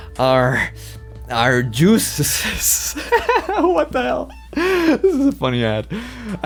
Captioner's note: laughs